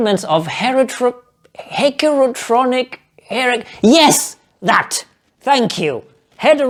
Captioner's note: failure to pronounce heterochronic parabiosis